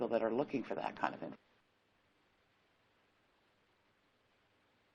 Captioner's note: audio cuts off